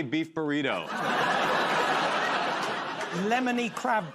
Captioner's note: laughter